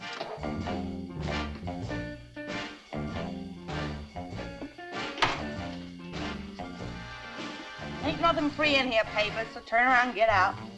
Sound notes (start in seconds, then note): 0.1 upbeat music; 5.1 door rattles